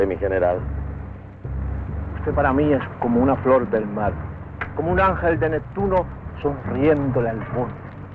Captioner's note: General Tostada speaking in Spanish